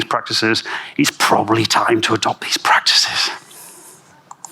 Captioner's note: whispering